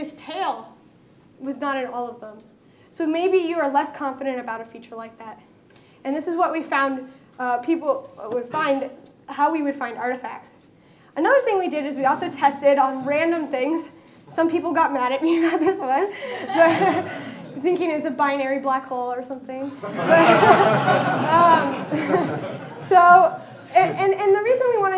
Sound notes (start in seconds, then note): 13.3 laughter